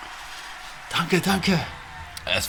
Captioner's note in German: Applaus